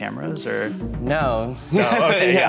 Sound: laughs

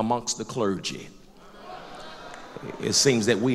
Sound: loud crowd agreement

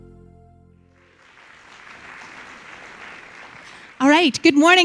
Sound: clapping

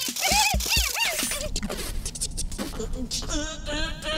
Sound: beat boxing

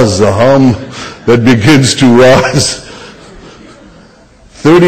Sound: laughs

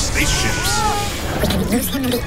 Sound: yelling

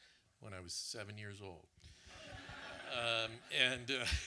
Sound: audience laughs

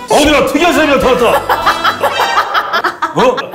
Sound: laughing

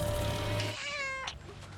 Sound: cat meow

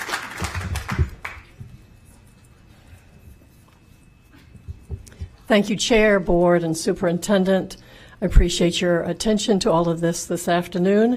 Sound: applause

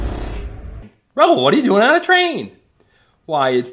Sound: voiceover

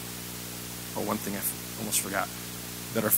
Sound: none

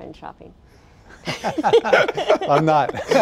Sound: laughter

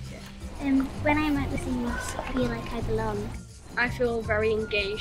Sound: various children's voices

